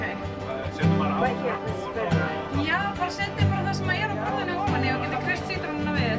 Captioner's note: people speaking in Icelandic; calm music